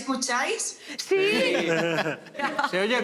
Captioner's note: laugh